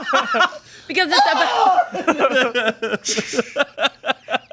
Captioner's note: laughing; shouting; shushing; laughing